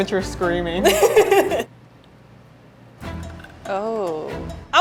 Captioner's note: laughing